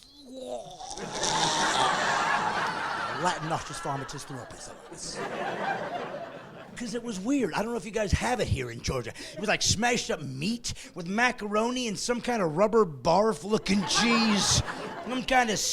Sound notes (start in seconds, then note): 4.5 gagging; 9.2 laughing